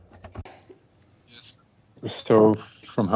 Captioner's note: speaking french